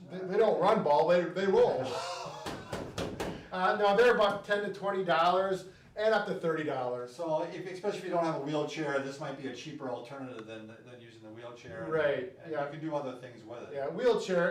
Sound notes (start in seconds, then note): 1.6 both laughing